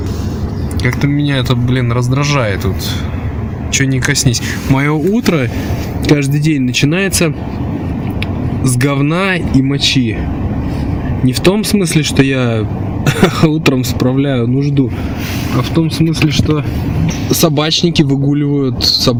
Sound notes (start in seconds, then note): 13.0 ha ha